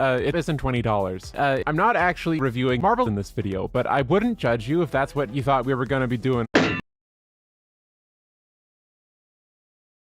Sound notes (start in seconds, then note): 6.5 anvil thud